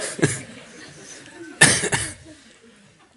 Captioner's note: laughter